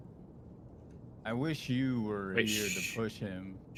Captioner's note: humming from chat